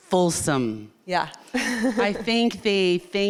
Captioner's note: chuckles